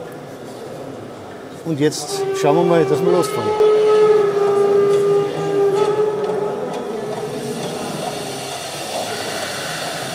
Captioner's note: locomotive whistle